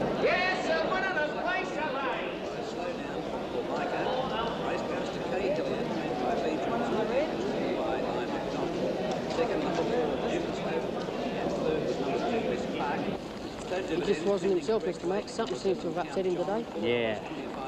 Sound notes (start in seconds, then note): 2.9 crowd chattering